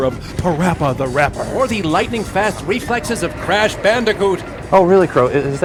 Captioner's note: crow